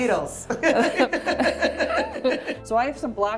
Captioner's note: both laughing